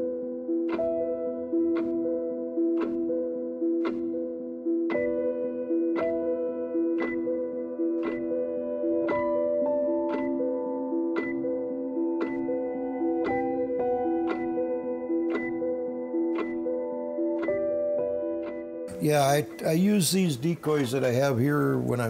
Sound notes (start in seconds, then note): 0.2 suspenseful music; 1.4 clock ticking